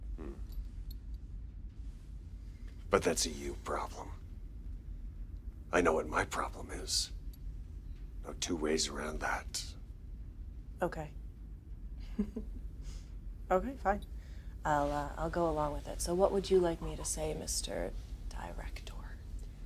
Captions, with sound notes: Hm. But that's a you problem. I know what my problem is. No two ways around that. - Okay. (Ava chuckles) Okay, fine. I'll, uh, I'll go along with it. So, what would you like me to say, Mr. Director?